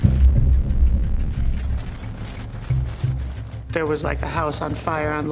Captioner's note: crackling